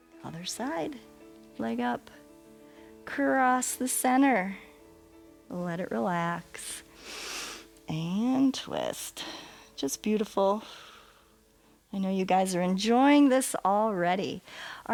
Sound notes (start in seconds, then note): 6.9 inhales; 11.1 exhales